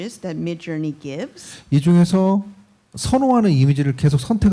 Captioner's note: speaking korean